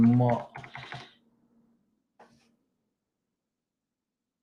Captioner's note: keyboard clicks